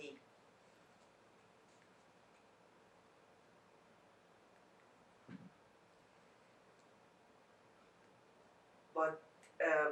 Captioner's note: pauses 8 seconds